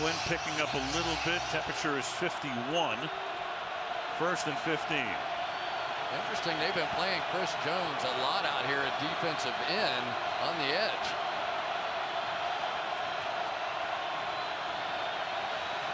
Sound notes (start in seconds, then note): 12.1 crowd cheering